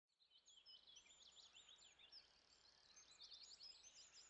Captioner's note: birds singing